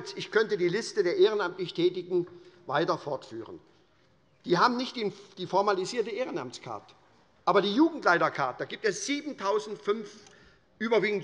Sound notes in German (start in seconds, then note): none